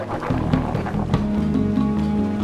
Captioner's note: camels grunting